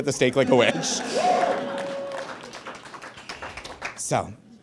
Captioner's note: audience applauds; spectator whoops